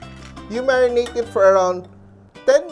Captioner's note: clink